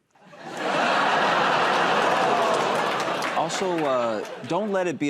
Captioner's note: laughter